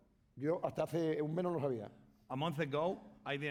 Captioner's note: speaking spanish